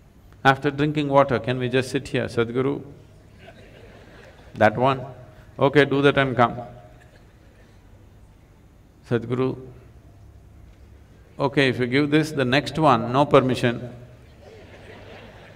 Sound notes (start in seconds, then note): 3.3 laughter; 14.3 laughter